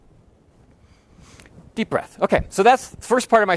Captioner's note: loudly inhales